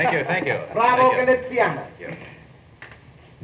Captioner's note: chico speaking in foreign language